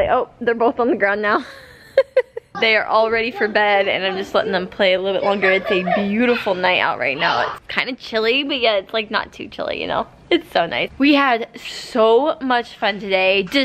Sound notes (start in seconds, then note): 1.4 laughs